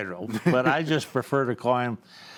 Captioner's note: laughs